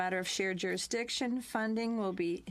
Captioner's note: speaking french